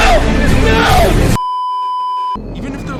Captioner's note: beeeeeeeeeeeep